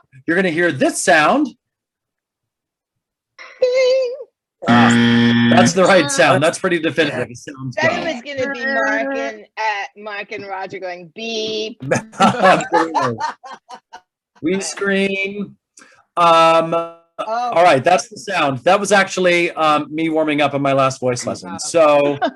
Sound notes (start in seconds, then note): 4.4 ding; 4.6 loud buzzer